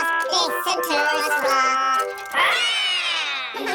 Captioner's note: all roar; all laughing